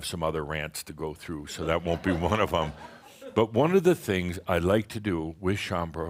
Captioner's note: some chuckles